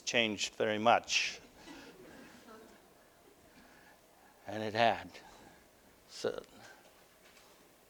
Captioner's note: audience: Laughter